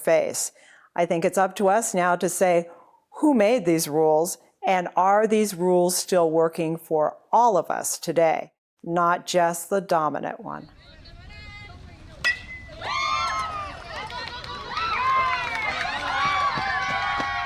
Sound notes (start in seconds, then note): 10.7 crowd cheers; 12.2 bat pings; 15.1 crowd cheers